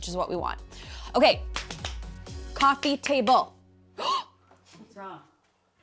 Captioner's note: gasps